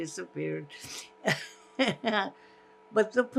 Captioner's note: laughing